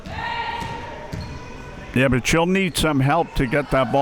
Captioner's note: spectators shouting